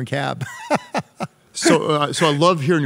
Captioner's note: laughs